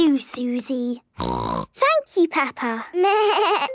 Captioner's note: snorting; bleating